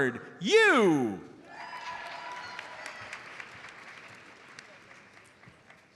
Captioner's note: audience applauds